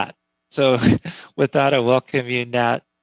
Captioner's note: laughing